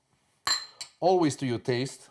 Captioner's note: glass clinking